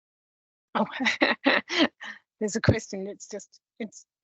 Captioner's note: laughs